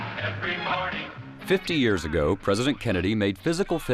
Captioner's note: voiceover